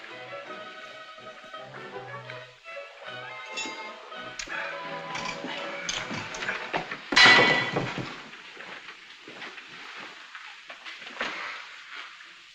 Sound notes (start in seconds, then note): 0.0 cheerful music; 7.2 clink